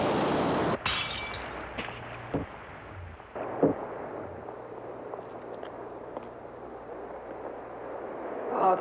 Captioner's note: glass breaking